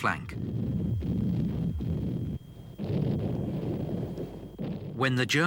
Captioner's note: explosions booming